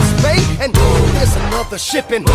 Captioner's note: boom!